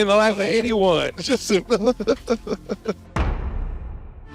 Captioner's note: laughing